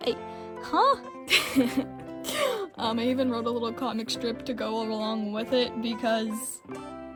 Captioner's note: laughs